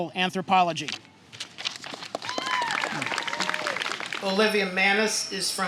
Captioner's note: applause